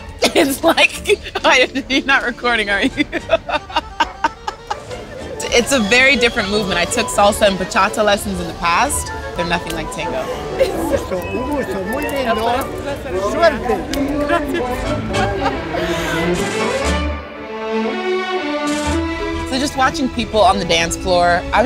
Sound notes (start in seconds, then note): 0.2 laughing; 0.2 laughs; 2.6 laughing; 10.7 man thanking woman in Spanish; 14.4 laughing; 16.8 lively tango music